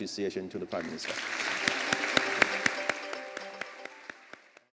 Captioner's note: applause